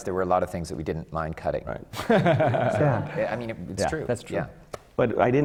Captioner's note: laughter from the panel